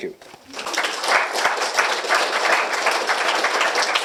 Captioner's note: applause